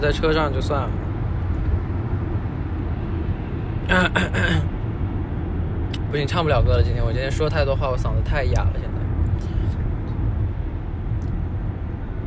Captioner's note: coUgh coUgh